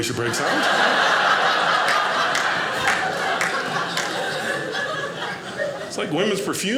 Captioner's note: audience laughing